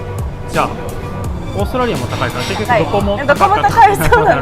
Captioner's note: haha